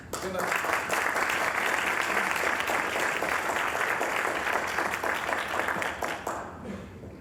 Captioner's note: applause